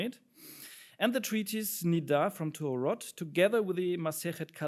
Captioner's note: speaks in foreign language